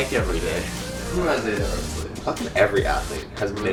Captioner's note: pat